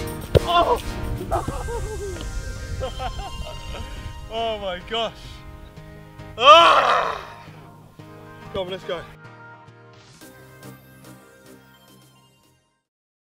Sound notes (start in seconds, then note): 2.7 laughing